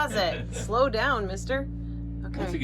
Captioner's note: laughing